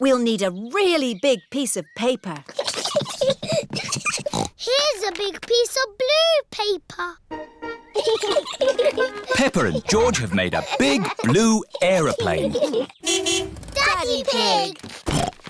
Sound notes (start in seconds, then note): 4.1 snorts; 7.9 both giggling; 13.0 horn honks